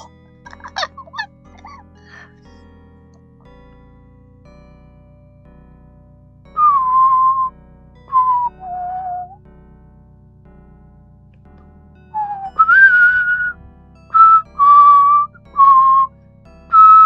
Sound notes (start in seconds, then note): 0.5 muffled laugh; 6.5 whistling